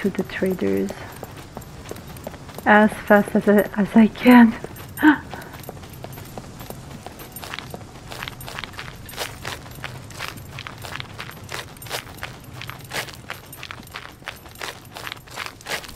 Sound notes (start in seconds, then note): 5.0 Rires